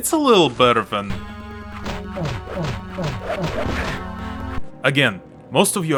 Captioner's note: bump, bump, bump